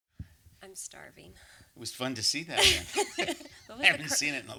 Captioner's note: laughter